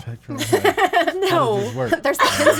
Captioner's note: woman laughs